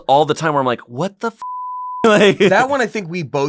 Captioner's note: beep